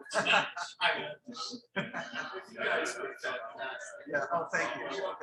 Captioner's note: people chattering indistinctly